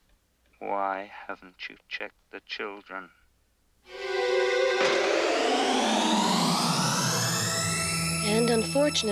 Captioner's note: siren Wailing